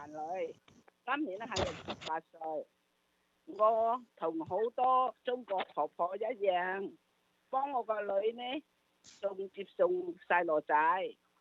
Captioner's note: speaks non-English language